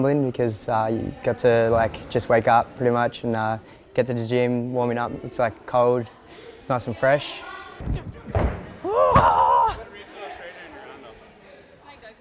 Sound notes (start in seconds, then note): 7.8 feet thudding